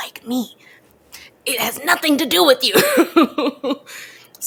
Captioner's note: laughs